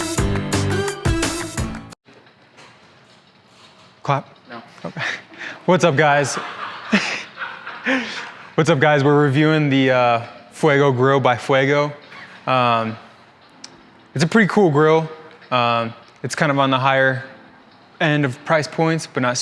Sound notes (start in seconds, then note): 6.1 laughs